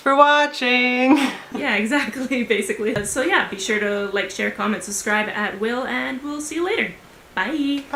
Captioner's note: laughter